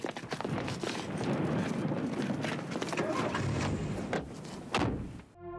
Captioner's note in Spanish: explosiones distantes